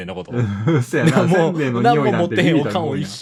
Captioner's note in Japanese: 笑い